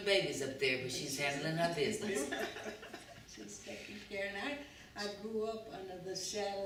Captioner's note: laughter